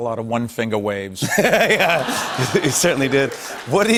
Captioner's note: laughter